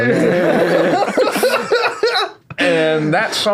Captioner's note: laughing